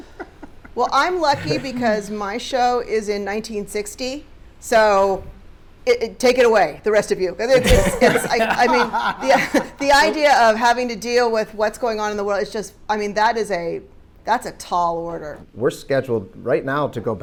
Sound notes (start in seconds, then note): 1.3 Kenya laughs; 7.5 panelists laughing